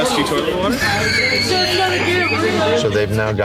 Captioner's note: wheezes